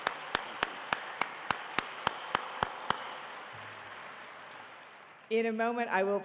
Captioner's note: and audience cheering and applauding